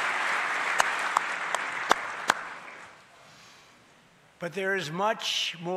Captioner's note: applause